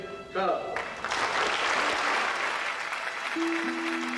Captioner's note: applause